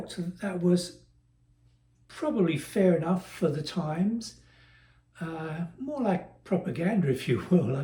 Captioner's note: laugh